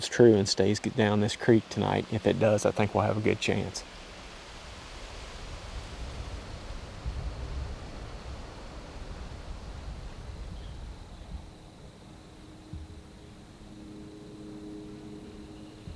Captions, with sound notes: true and stays get down this Creek tonight if it does I think we'll have a good chance [wind blowing, leaves rustling]